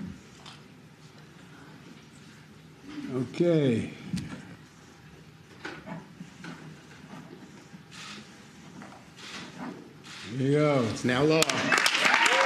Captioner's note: applause